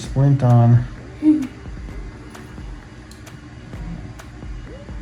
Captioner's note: giggles